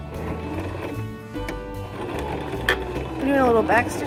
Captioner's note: whirring